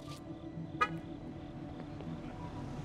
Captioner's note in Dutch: autoalarm activeert